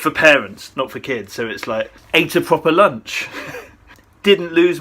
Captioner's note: chuckles